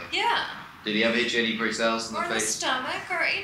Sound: voiceover

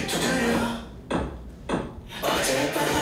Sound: knock, knock, knock

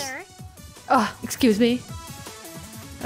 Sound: scoffs

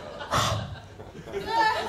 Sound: breathes on hands

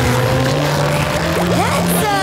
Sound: cheering

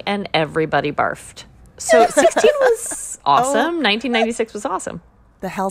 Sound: laughter

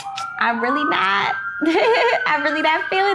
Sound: laughing

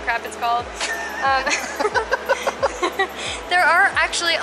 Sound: laughing

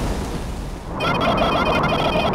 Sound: more Speedrunning Sounds

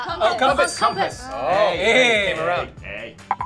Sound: bell dings

